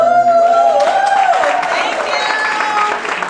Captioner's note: all cheering and clapping